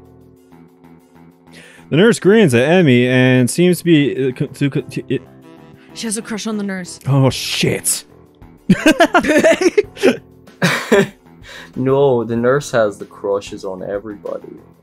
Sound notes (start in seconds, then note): 10.5 laughs